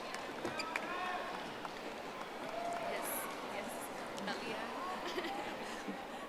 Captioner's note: audience applauding